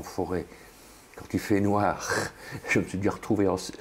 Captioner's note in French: rire